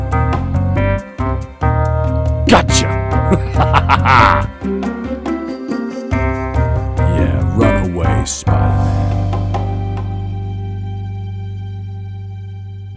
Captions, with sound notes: Gotcha! (Thanos laughing) Yeah, run away, Spider-Man.